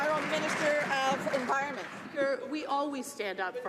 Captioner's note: some Applause